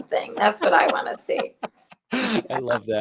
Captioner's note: laughs